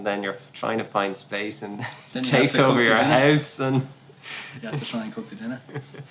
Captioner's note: laughs